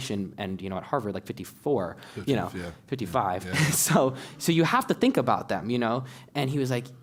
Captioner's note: laugh